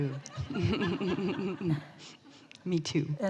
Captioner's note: laughter from the audience